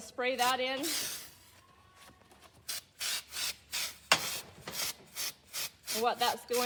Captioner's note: spraying noises